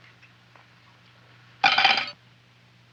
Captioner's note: cutlery clattering